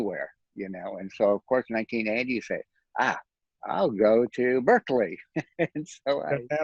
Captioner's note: laughs